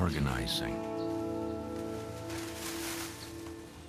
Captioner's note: corn rustling